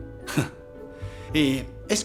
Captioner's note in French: Eli glousse